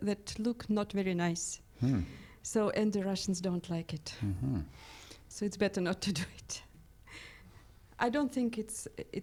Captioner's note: laughs